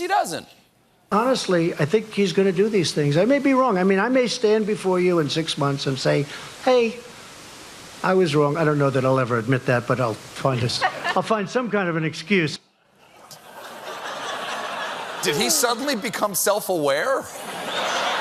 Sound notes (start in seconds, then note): 10.7 laughter